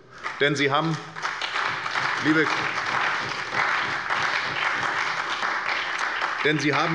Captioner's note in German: Beifall bei der SPD und der FDP